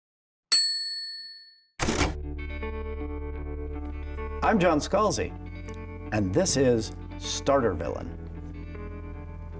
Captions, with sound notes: (bell ringing) (mysterious music) - I am John Scalzi, and this is Starter Villain.